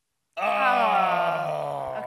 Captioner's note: disappointed growning